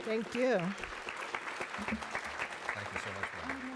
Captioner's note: applause